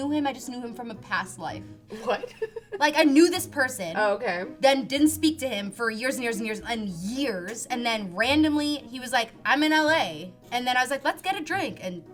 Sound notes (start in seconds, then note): 1.9 laughs